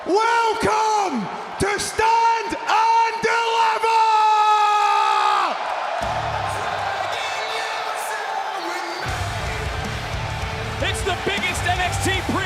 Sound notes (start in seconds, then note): 4.4 crowd cheers